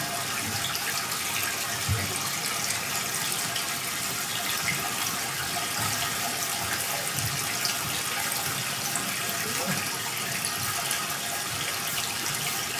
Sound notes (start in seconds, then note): 3.2 water trickling continues